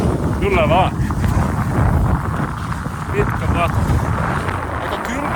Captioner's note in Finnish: tuulen kohinaa